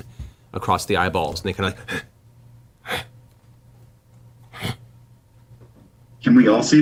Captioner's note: grunts